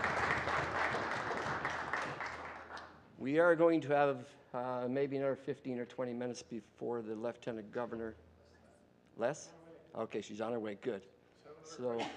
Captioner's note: applause